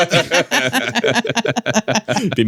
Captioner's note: laughing